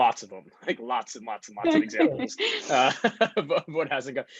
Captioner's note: laughs